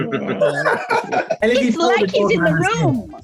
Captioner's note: group laughs